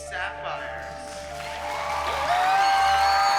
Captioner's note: cheering